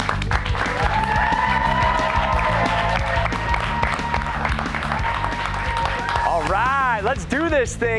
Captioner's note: cheers and applause